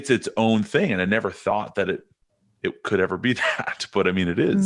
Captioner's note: chuckles